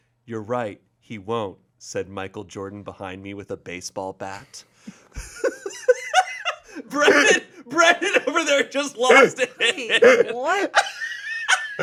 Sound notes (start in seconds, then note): 6.2 laughs